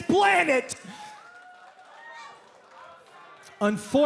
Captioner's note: crowd cheering